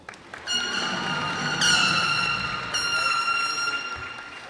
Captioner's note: cheers and applause